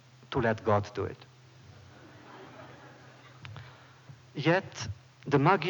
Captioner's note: laughter